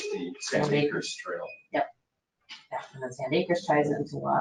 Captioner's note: speaking faintly